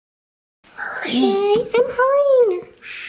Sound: whispering

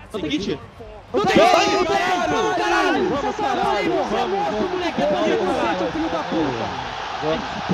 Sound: Furia’s team celebrating the round won

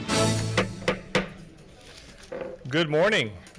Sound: gavel knocking

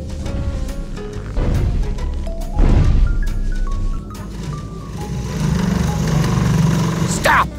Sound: stomping, chair sliding

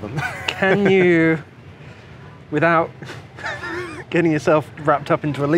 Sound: laughs; laughs

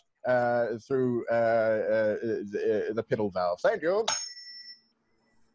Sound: tuning fork dings

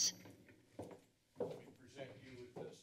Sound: footsteps

